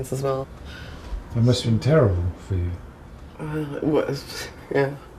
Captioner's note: voiceover